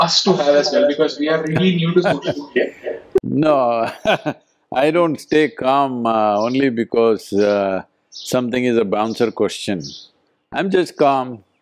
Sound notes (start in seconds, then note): 1.4 Sadhguru laughs; 4.0 laughs